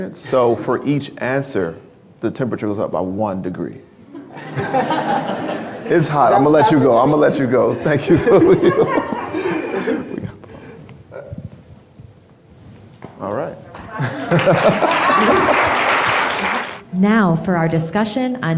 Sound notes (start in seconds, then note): 4.1 crowd laughing; 13.8 crowd cheering